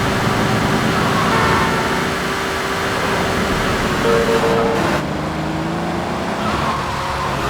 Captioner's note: engine roaring; car horn honking